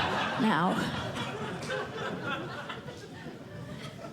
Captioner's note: laughter